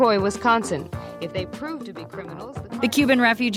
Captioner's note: archival news audio; archival news audio